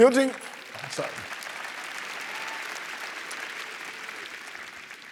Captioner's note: applause